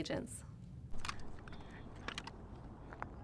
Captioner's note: metal of Guns Clicking